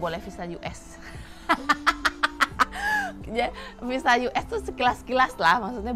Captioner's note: laughs